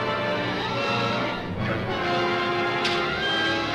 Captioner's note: clicks